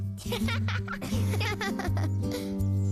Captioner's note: laugh